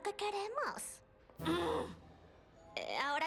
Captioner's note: snarl